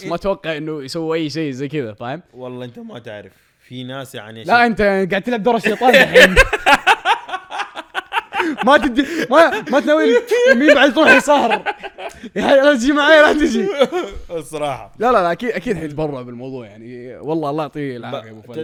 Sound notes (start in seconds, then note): 5.6 both laugh